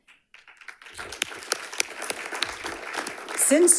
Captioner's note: audience applauds